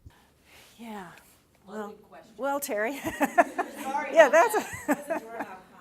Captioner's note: laughing